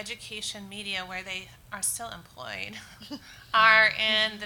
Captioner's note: chuckles